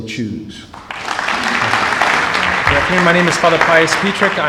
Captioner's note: applause